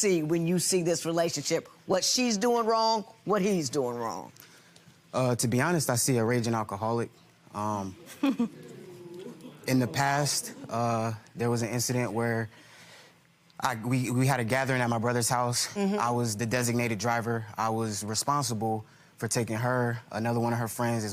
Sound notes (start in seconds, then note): 8.0 laughs